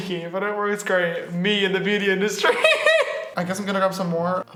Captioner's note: laughs